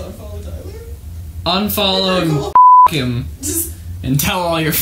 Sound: beep

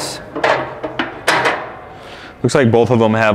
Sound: metal chinking

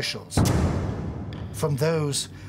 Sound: hand slamming

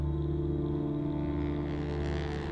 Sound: airplane hums overhead

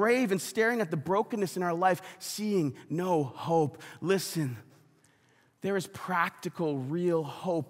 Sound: none

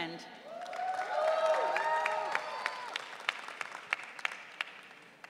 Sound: audience cheering

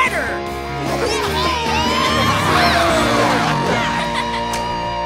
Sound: cheering

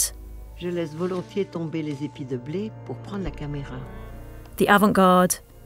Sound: speaking foreign language

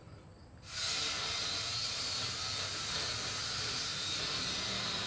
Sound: metal cutter machine running

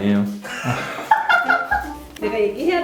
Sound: giggle

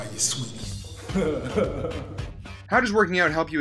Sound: chuckles

